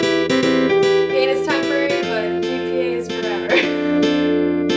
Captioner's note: laughs